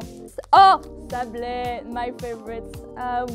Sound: french exclamation

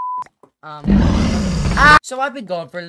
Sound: dragon roar

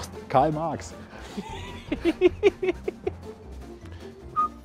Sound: laughs

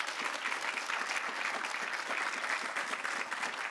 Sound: audience applauds

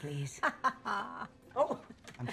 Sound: laughing

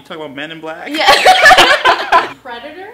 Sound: laughter

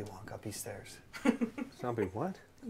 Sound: laughs

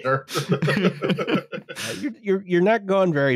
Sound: laughter

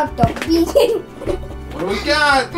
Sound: giggles

